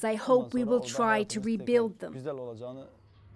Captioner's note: speaking alternate language